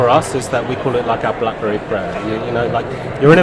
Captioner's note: laughter